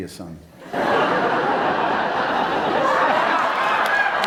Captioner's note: audience laughs